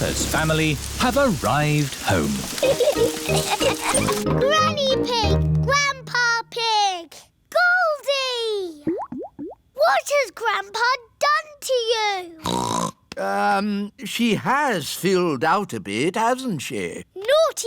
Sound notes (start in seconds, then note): 2.6 laughter; 12.8 snorts